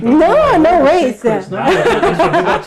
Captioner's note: laughs